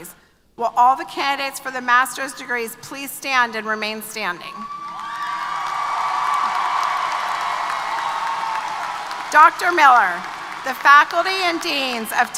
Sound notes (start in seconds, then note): 4.6 applause & Cheers